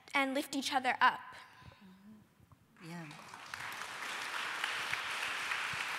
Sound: applause

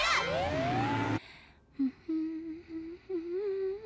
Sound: humming

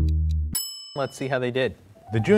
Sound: timer ticking; timer ringing

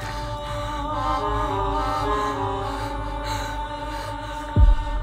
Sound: gasping in terror

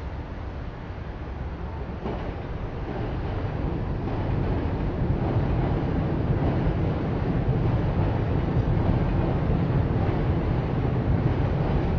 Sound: train Noises

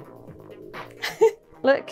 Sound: laugh

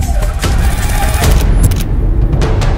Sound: camera clicks

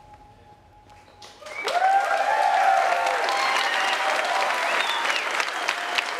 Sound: attendees cheering and applauding

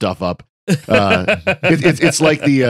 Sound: laughing

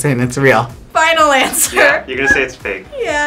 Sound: laughs

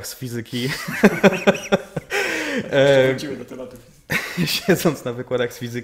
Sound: laughter

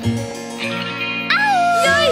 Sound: howling

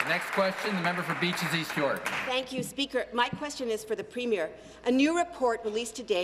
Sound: applause

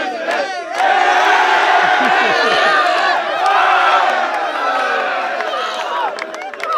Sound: cheering

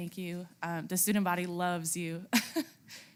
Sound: laugh

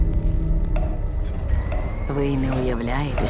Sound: ticking accelerates

